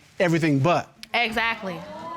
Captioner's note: audience exclaiming